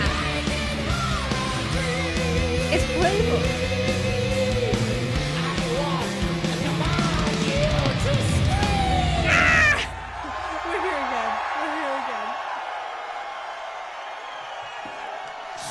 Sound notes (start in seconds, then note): 9.2 screeching; 9.2 audience cheering; 13.1 audience continues cheering